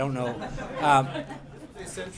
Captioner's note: laughter